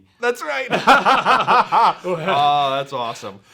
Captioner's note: both laugh